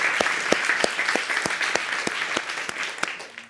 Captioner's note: audience applauds